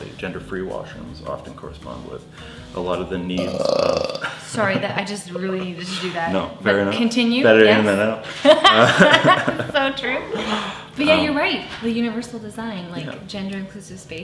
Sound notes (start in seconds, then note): 3.3 burping; 8.2 laughing